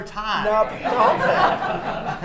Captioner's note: laughter